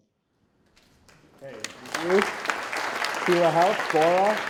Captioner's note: audience applauding